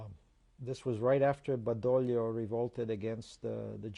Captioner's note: non-english